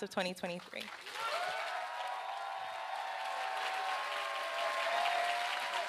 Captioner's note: applause